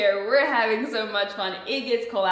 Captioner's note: none